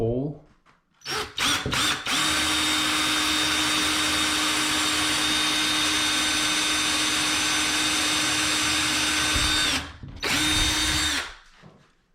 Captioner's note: drilling sound